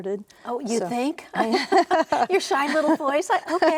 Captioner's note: both laughing